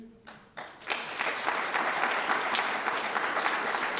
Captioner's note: applause